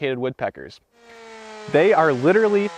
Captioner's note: chain saw roaring